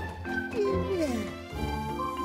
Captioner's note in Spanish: suspira